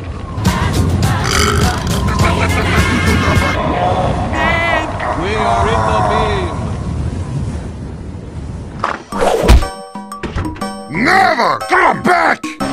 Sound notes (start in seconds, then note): 1.2 burp; 2.1 heavy singing